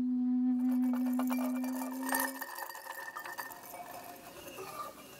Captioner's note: haunting woodwind music; shells tinkling; scraping